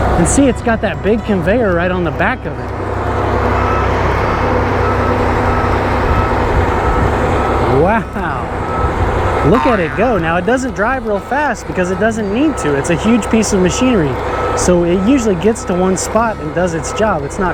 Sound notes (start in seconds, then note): 3.3 machine beeping; 3.5 machine whirring